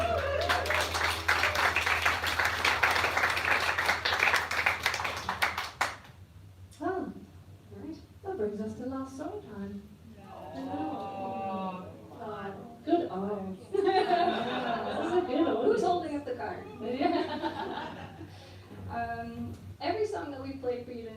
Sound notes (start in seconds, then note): 0.0 applause; 10.2 audience Aws